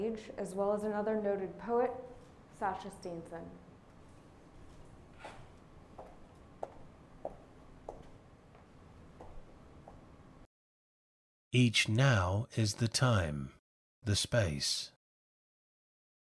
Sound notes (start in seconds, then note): 3.9 footsteps; 11.6 poem audio playback